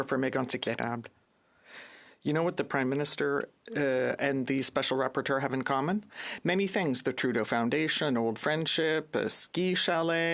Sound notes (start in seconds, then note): 2.4 speaking in French